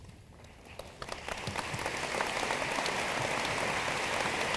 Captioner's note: room applauds